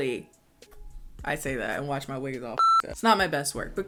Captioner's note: beep